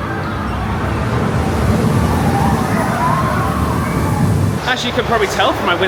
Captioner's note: roller coaster wheels thundering; guests squealing